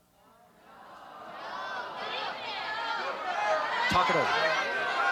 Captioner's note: audience Shouting